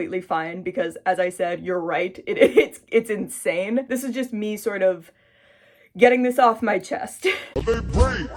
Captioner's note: laughs; deep breath; funky music